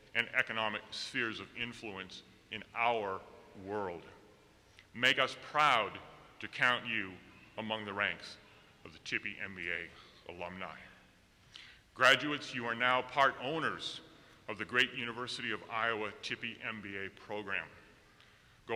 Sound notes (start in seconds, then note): none